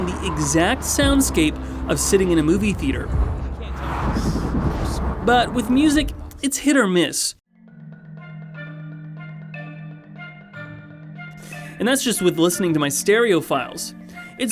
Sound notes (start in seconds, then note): 3.7 cars whooshing; 5.2 people chatting; 8.2 upbeat music